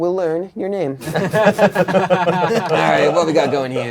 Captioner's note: crowd laughing